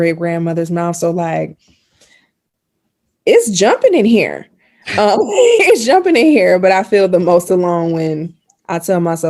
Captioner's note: laughing